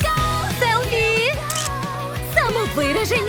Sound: camera clicks

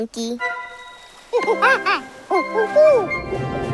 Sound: hooting

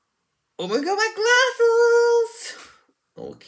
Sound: gasp

